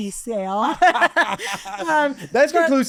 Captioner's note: laughing